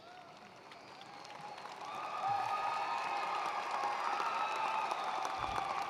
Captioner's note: attendees cheering and applauding